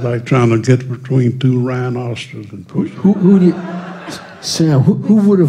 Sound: laughter

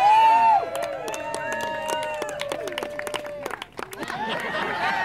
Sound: loud cheering from the crowd; extended clapping; boisterous laughter

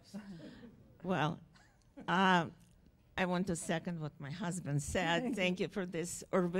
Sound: voiceover

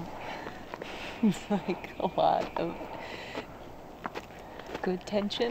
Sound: laughing

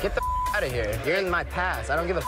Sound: beep

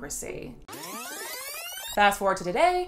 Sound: electrical rewinding

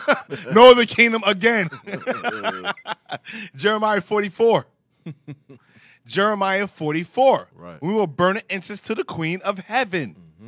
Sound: laughing

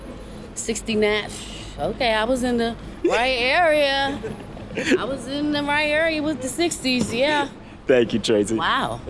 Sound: scoffs

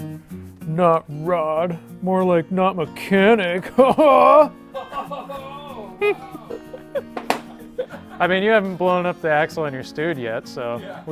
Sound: laughs

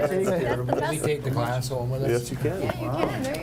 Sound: chatter

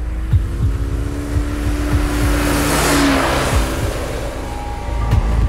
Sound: motorbike engine roaring

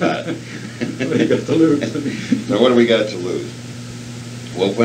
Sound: both laugh

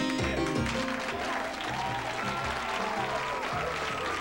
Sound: cheers

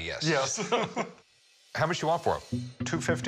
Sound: laughing

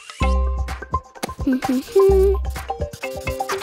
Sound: humming

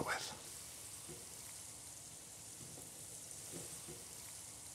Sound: gentle oil burbling

